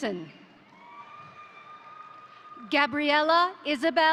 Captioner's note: crowd cheering; crowd applauding